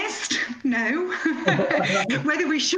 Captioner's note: laughter